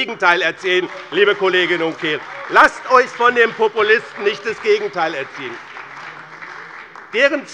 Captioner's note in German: Beifall bei Abgeordneten des BÜNDNISSES 90/DIE GRÜNEN und der CDU